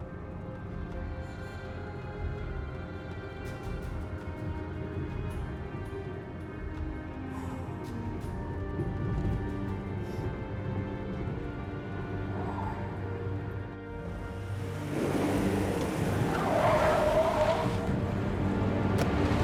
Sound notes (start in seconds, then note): 14.1 tires screeching